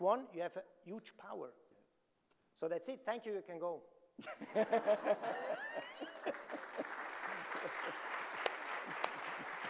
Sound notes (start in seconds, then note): 4.2 chuckling; 5.5 audience applauding